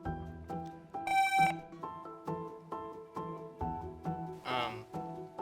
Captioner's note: buzzer buzzing